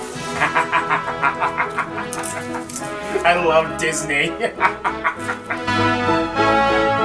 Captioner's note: laughing; epic music plays